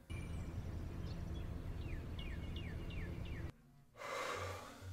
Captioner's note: birds chirping